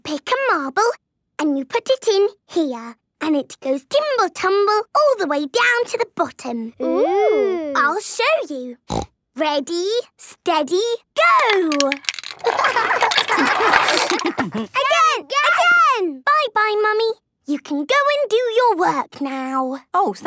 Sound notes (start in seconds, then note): 8.8 snorting; 13.2 laughter